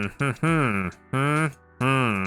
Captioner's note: humming